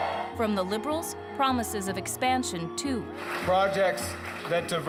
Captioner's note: cheers and Applause